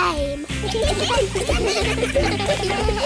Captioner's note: giggling